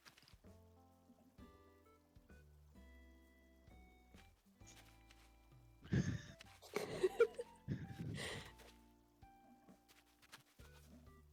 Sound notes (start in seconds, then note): 5.9 giggling